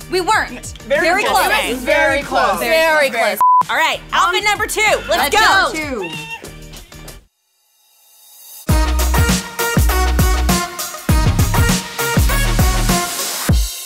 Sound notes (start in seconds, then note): 3.4 beeps; 4.8 squeals; 8.7 upbeat techno music